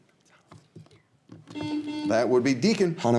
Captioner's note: buzzer beeping